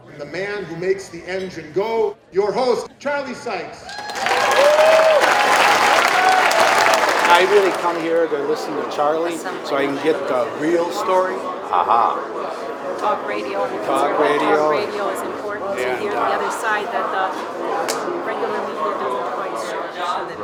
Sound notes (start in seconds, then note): 3.8 applause, cheering